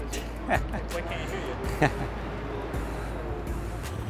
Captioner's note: laughing